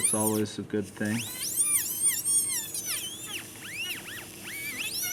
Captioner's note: dental drill